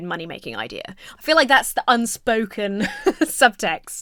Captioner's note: laughs